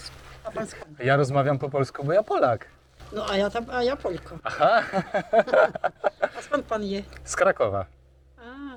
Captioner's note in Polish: śmiech